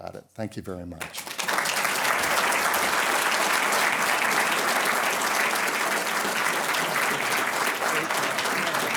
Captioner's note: applause